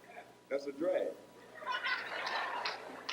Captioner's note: audience laugh